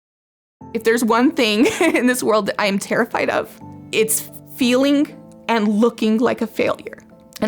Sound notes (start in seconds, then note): 1.6 laughs